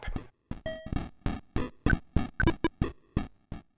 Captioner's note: C64 popping noises